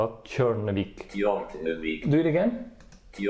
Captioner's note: Google Translator voice